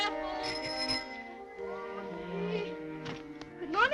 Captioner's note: ringing